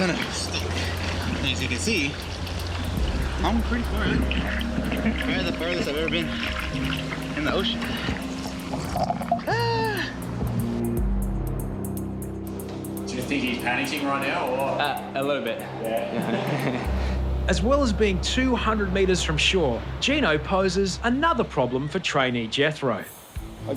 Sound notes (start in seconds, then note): 9.1 sighs; 16.0 laughs